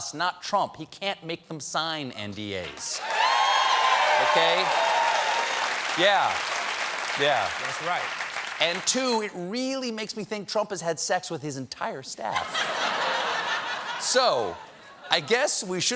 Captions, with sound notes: GOVERNMENT OFFICIALS WORK FOR US. YOU CAN'T MAKE THEM SIGN N.D.A.s. ( CHEERS AND APPLAUSE ) YEAH, YEAH. AND TWO, IT REALLY MAKES ME THINK TRUMP HAS HAD SEX WITH HIS ENTIRE STAFF. ( LAUGHTER ) SO I GUESS WE SHOULDN'T HAVE BEEN SURPRISED WHEN PORN STAR ATTORNEY AND ATTORNEY WHO LOOKS